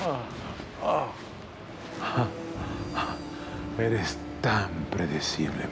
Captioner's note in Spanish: Quejidos